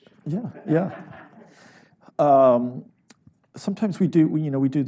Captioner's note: audience laughs